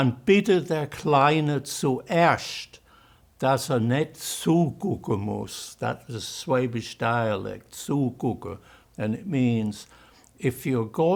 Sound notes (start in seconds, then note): 7.3 german